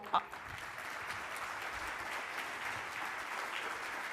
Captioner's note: audience clapping